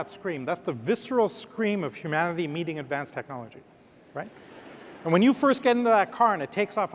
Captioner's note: laughter